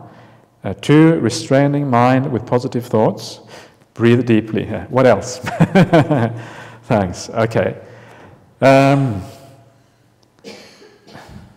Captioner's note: chuckles